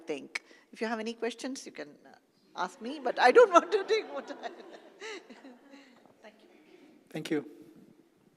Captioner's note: laugh